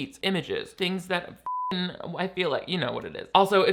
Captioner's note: beep